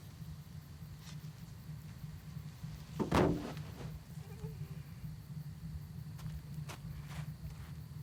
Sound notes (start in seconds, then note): 3.7 soft groaning